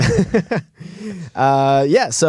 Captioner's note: laughter